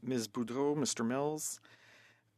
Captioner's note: speaking French